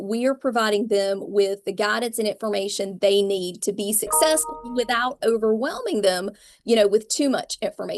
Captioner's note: computer notification sound